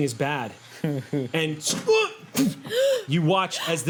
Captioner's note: grunts; gasping